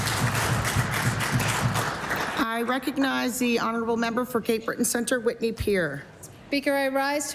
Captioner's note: applause